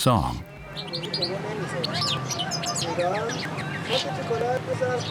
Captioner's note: birdsong